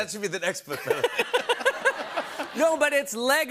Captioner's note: laughter